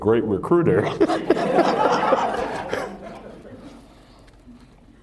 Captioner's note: laughter